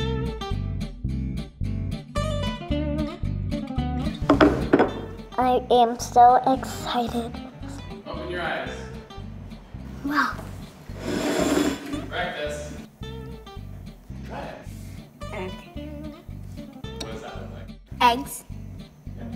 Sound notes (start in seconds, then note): 4.3 bowls clink